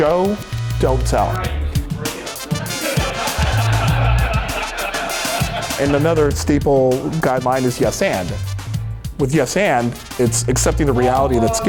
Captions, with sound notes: >> Show, don't tell. (upbeat jazz music) (audience laughter) And another staple guideline is yes, and. With yes, and it's accepting the reality